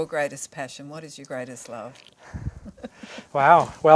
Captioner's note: laughing